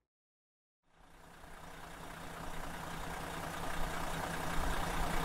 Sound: engine rumbling

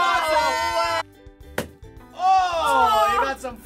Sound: balloon popping

